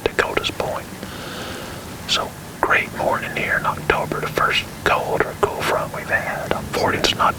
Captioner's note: whispering